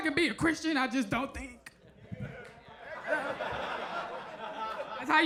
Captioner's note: audience laughs